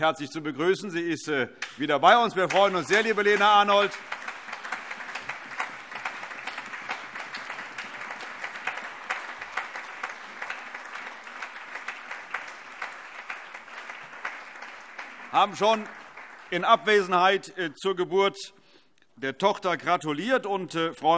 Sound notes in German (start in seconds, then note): 4.2 Allgemeiner Beifall